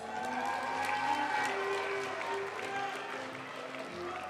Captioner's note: audience cheering and applauding; graduation music